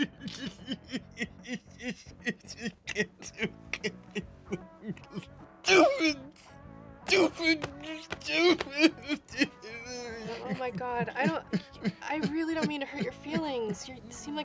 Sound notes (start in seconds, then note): 0.9 cryimg, hitting himself